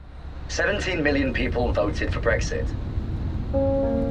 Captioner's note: radio Announcer; gentle music